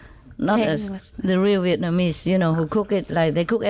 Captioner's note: Vietnamese